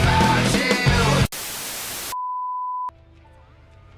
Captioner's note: static